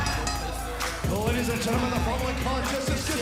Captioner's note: bell ringing